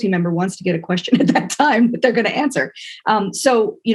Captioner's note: laugh